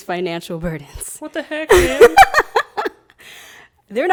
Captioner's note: laughing